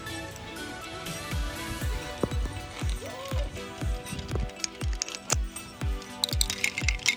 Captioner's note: laughs